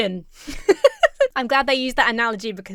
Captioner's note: laughs